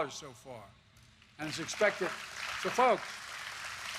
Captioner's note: applause